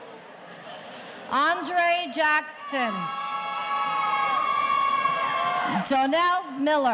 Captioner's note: audience cheering